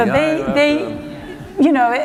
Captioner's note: laughter